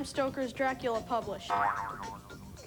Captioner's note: boing